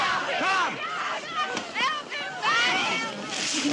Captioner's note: woman screaming